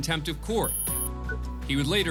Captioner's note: computer beeps